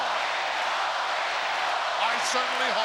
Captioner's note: crowd yelling